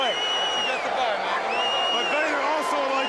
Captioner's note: crowd cheering